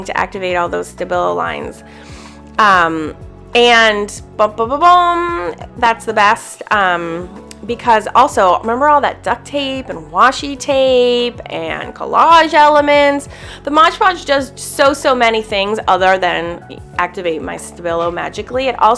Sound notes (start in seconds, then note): 4.1 hums